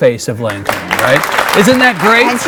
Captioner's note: audience clapping